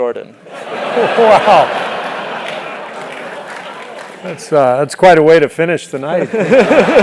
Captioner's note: laugh; laugh